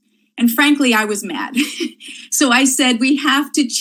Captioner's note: laughs